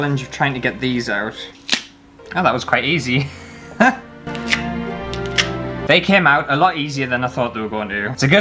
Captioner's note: snap